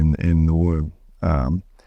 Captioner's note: none